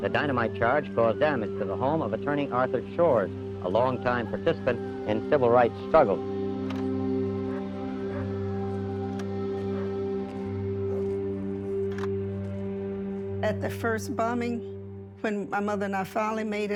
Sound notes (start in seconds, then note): 7.3 sirens; 8.1 dog barking